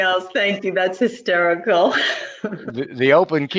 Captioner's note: laughs